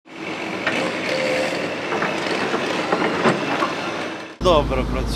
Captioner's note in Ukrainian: звуки техніки